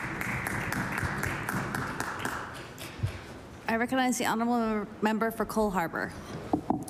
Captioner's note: applause